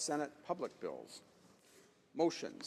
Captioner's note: speaking French